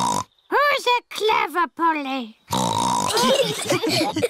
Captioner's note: snorts; snorts; laughter